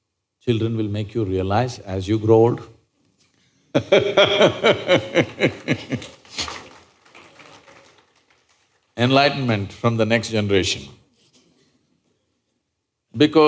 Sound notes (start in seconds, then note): 3.7 laughs